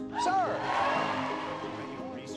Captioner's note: crowd cheers